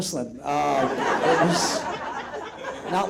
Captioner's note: audience laughs out loud